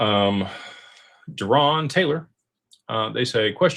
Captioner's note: sighs